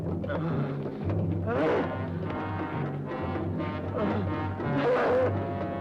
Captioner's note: muffled screaming